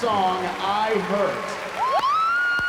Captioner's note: applause